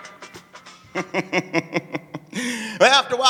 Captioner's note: laughing